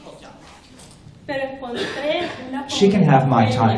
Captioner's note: speaking spanish